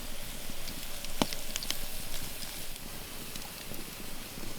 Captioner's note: fire crackling